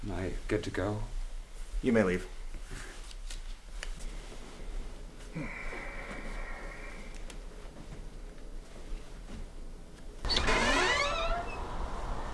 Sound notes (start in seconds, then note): 10.2 door opens